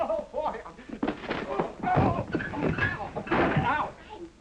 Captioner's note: clattering, grunting